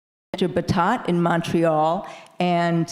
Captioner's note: faintly speaking